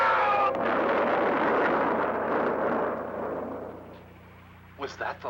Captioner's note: explosion